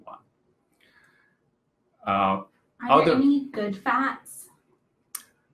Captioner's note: off-screen voice